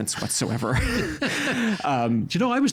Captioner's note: laughing